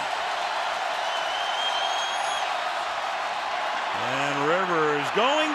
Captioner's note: crowd cheering